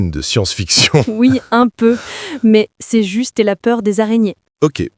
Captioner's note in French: rire